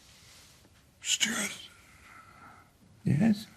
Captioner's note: whispers